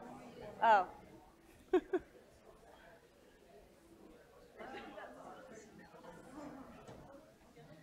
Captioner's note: laugh